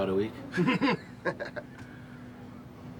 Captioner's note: Leek and Cortez laugh